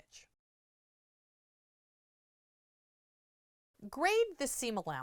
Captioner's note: no Sound Present